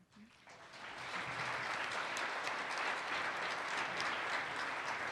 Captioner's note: participants applaud